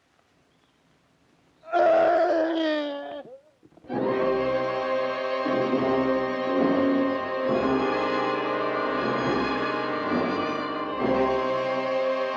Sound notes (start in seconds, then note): 1.6 screams; 3.9 loud foreboding music